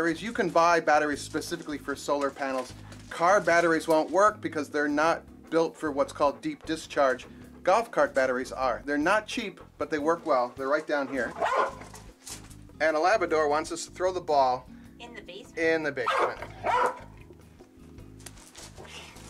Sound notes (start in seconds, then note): 11.0 dog barks; 16.0 dog barks